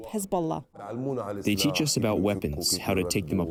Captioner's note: through translator